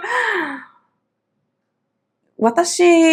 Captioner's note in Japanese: 笑い; 息をのむ音